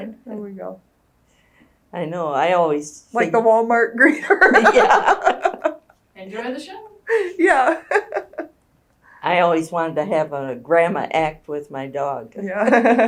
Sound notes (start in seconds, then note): 4.2 laughter; 7.1 laughs